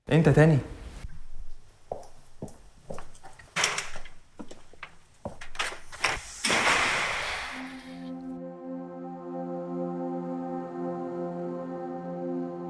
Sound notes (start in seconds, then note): 2.9 door opens; 5.2 door closed